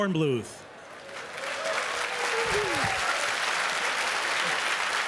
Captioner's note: applause